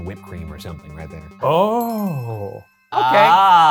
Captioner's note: list chimes